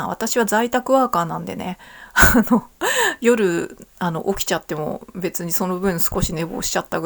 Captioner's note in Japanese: 笑い